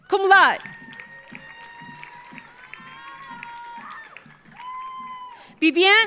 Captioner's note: audience cheering; audience applauding